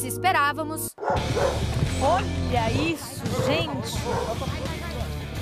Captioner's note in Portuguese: latidos